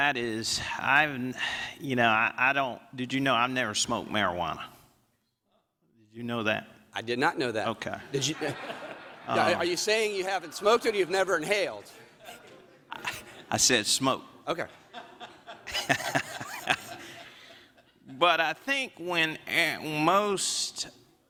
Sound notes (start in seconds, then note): 12.0 laughter